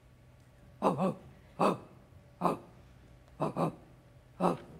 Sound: dog softly barking

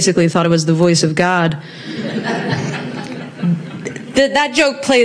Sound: audience laughs

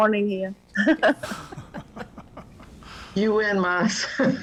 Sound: laughter

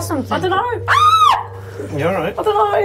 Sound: screams

